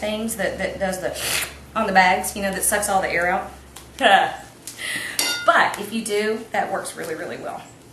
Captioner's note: sucking noise